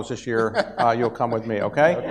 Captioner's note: laughs